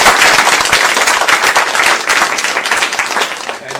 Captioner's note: applause